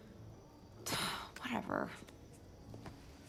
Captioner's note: sighs